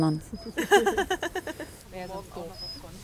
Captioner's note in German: Lachen